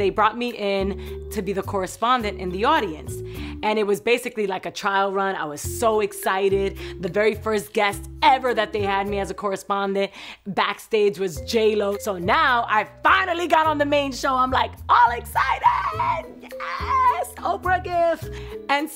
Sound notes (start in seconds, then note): 15.0 screams happily